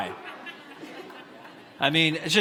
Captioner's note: audience laughs